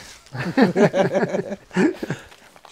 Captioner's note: laughs